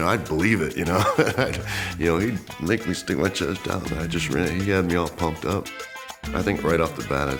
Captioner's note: laugh